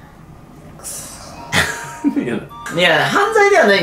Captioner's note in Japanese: 小声